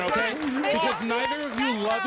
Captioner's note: chatter